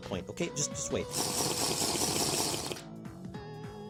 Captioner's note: Potion drinking sound effect from Minecraft